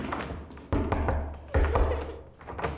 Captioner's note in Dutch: huilend; schudt met deurknop